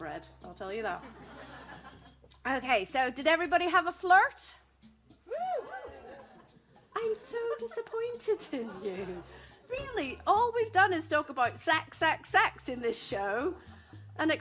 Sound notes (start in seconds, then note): 5.2 some whoops